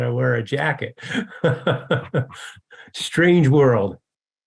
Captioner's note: chuckles